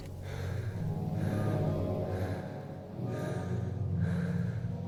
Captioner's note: Jacob breathing heavily